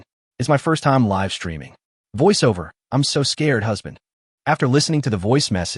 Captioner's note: voiceover